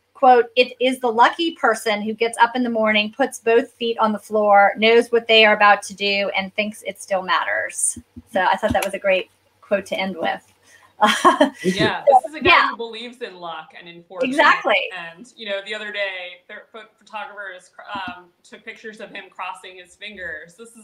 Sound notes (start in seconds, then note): 11.0 laughs